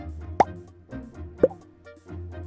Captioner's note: pop